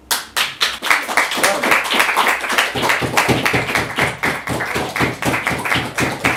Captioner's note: applause